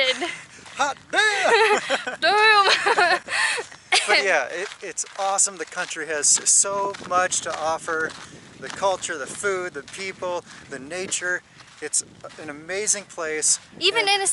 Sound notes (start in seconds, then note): 1.1 laughter